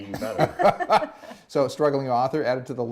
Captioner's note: laughing